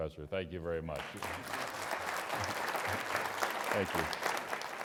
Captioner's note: applause